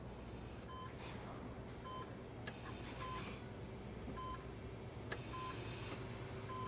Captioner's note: machines beeping